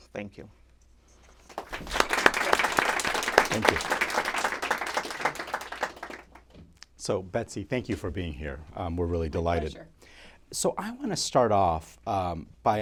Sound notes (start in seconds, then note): 1.3 applause